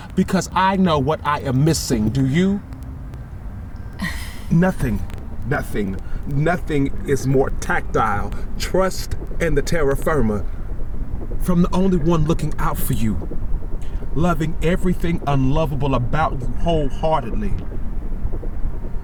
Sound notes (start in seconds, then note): 4.0 scoffs